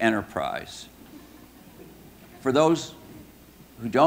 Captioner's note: audience laughing